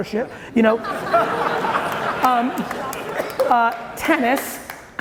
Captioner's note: audience laughing loudly